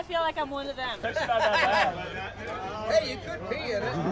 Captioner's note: laughter